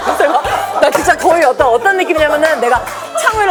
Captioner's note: hahaha